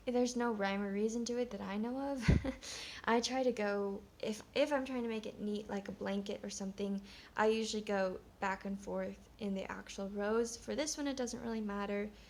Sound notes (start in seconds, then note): 2.2 chuckles